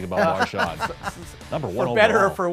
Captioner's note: laugh